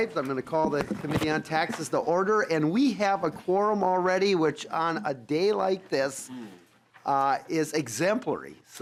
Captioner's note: gavel